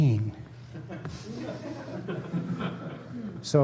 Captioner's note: laughter